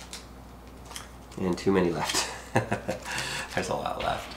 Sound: chuckling

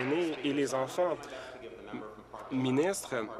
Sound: applause

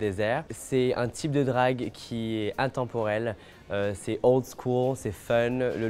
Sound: speaking French

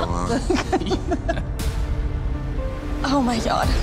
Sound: both laughing; dramatic music

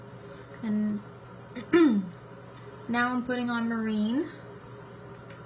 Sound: clears throat

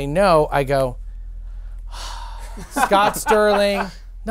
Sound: sighing

